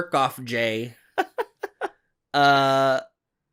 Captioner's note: laughs